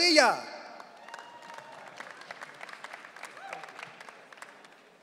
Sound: audience cheering

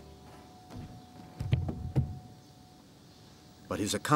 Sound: box thuds

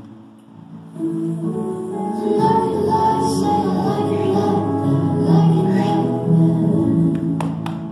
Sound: clapping

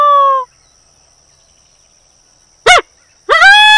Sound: birds chirping; man howling

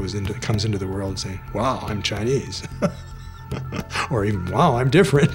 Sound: laughs

